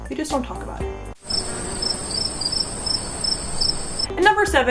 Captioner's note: cricket noises